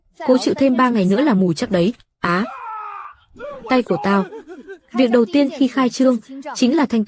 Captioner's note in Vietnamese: la hét